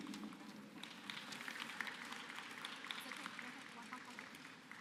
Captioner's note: applause